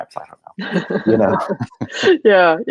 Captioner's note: laughing